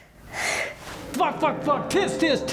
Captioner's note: heavy sigh